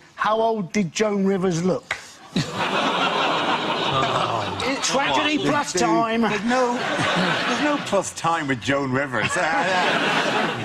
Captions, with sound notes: how old did Joan Rivers look? (audience groans) Is it Tragedy Plus Time? - There's no Plus Time with Joan Rivers.